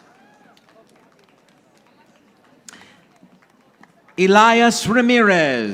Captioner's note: audience applauding